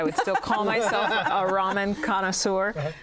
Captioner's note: laughter